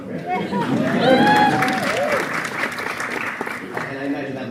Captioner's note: audience cheers and applauds